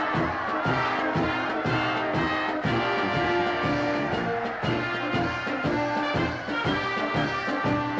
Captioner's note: applause